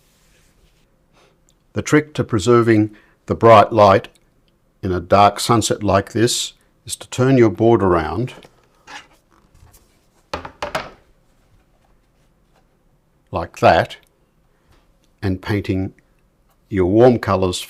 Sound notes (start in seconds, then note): 9.0 silence